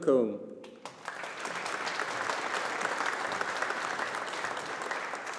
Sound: audience applauding

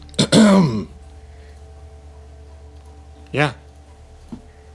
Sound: throat clearing

